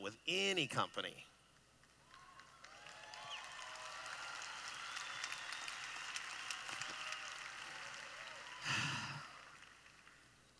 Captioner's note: cheering